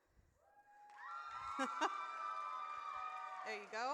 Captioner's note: audience cheers